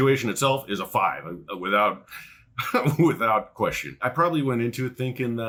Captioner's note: laughs